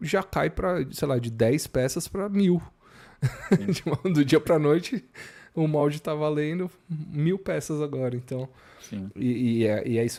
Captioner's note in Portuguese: risadas